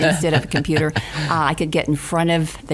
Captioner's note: laughing